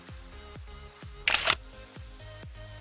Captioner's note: camera shutter clicks